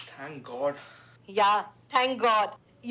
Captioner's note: on phone